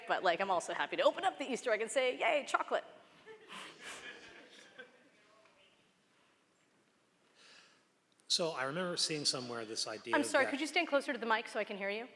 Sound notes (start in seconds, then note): 3.2 laughter